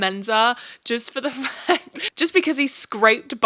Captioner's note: chuckles